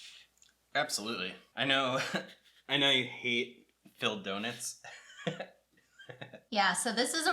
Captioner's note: chuckle